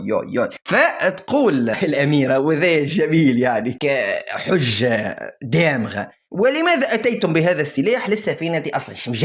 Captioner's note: laughs